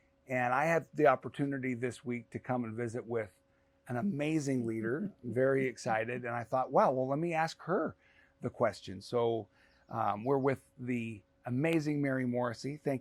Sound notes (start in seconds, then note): 4.9 laughs